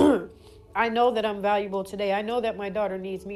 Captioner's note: clears throat